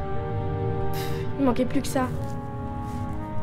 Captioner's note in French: soupir